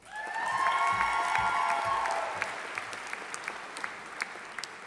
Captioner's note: audience applauding